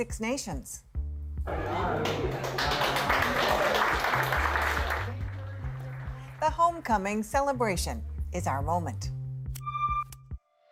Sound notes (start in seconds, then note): 1.6 applause